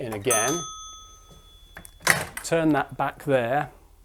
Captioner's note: a bell rings